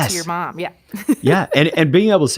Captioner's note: chuckle